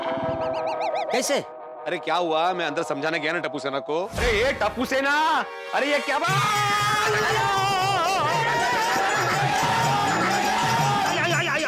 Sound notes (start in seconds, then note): 6.8 screaming